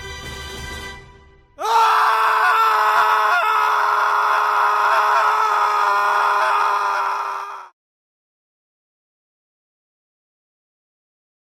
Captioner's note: Pouvscur screams as he falls to his death